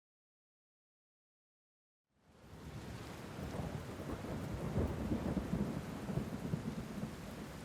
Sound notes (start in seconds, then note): 2.2 rain patters